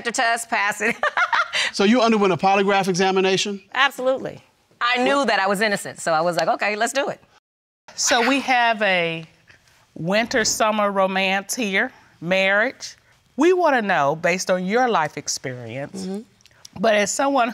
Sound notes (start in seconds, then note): 2.2 laughs; 7.8 laughs; 8.9 exhales